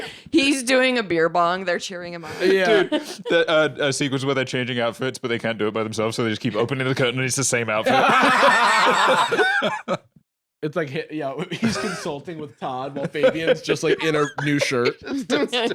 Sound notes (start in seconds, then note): 7.8 both laughing